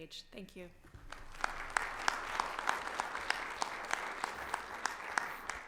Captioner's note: audience applauding